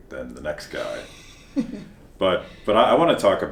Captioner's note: chuckles